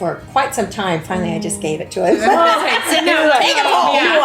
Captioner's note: all laugh